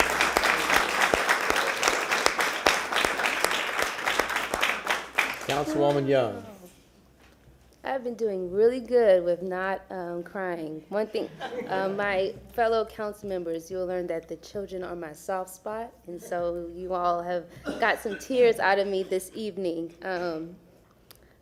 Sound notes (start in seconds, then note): 0.0 applause